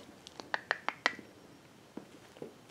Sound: makes clicking noises to call an animal

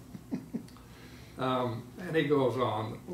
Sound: laughing

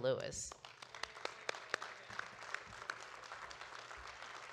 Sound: audience cheering

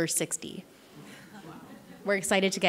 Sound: laughing

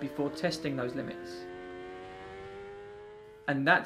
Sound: motorcycle revving

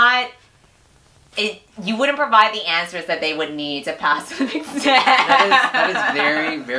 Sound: laughs

